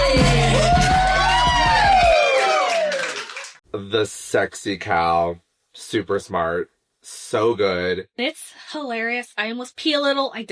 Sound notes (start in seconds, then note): 0.6 applause